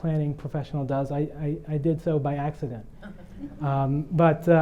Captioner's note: audience laughing